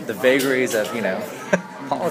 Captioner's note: laughs